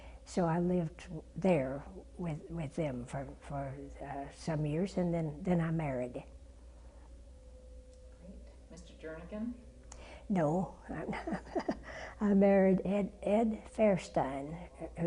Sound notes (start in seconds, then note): 11.0 laugh